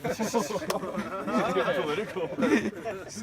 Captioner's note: laughter